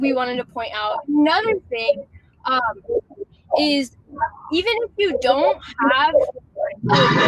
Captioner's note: technical glitch